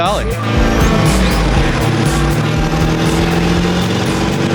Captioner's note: truck engine